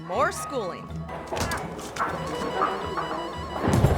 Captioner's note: foot thuds; bright music continues; body thuds